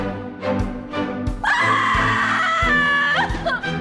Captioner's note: screams